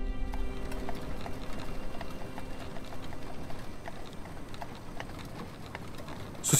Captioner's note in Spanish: Traqueteo de carreta